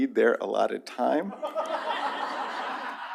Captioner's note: laughter